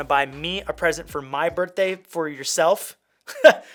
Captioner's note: laughs